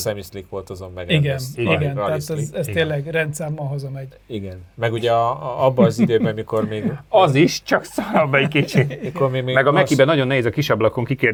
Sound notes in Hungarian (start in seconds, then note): 7.8 nevetés